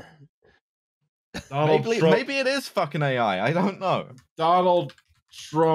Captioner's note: keyboard tapping